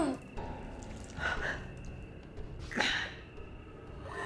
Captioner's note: Claire groans